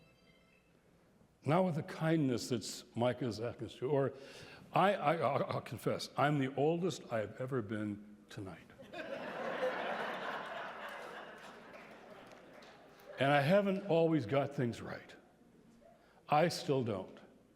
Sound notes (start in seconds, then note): 8.8 laughter